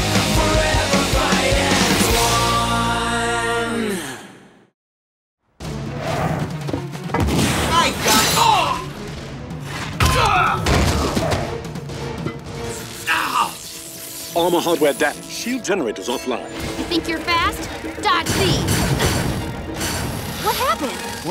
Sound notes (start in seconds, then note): 9.7 grunts